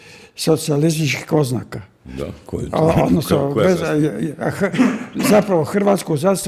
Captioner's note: laughter